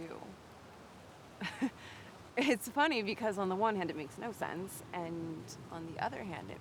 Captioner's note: laughs